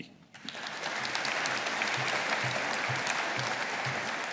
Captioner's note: audience applauding